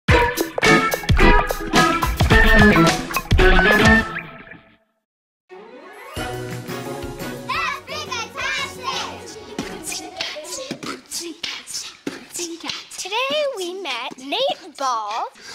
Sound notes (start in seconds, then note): 9.6 beatboxing